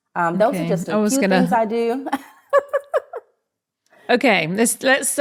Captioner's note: laughs